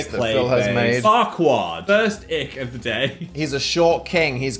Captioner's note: laughs